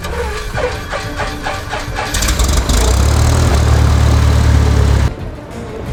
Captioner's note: plane engine whirring and roaring